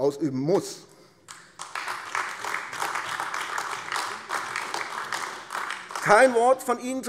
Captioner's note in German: Beifall AfD